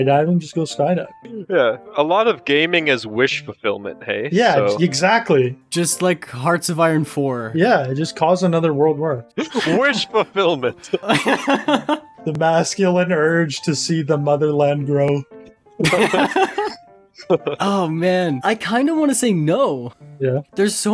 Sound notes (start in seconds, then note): 10.8 laughs in dictator; 15.8 laughs in Communism